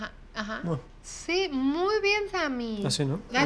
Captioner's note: speaking Spanish